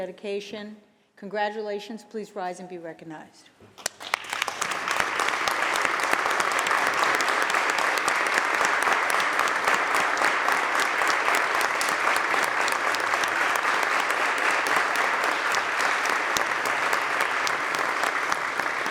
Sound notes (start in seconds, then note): 3.7 applause